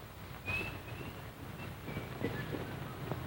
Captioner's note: whistling